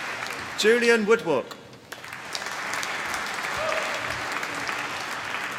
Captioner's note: applause